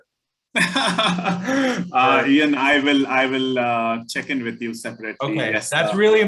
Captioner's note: laughs